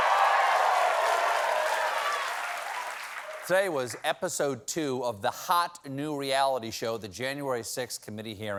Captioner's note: cheers and applause